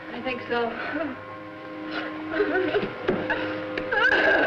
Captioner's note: Lauri crying